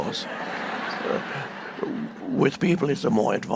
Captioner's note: audience laughing